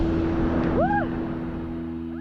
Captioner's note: screams